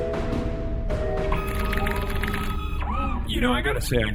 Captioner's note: music becomes more dramatic and trumpet-y, then fades away; electronic noises